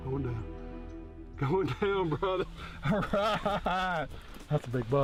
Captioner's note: laughing